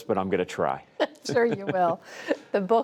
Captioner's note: laughter